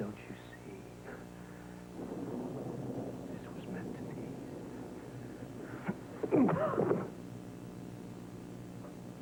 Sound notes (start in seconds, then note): 5.0 Josh trips and falls